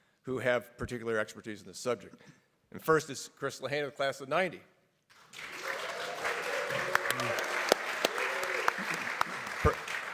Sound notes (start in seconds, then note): 5.1 everybody clapping